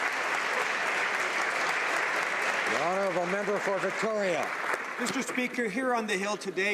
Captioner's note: applause